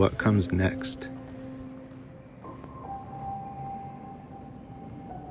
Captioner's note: wind howling